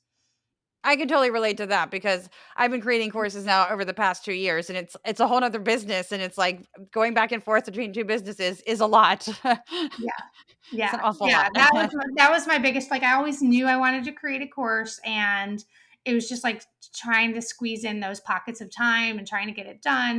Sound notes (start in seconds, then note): 10.8 laugh